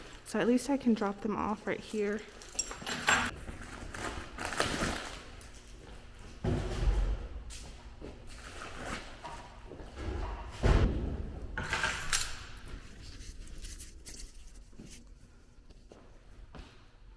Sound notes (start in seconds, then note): 6.5 packages banging; 11.8 keys jingling